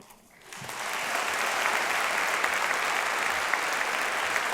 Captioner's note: applause